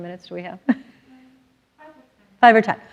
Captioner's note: laughs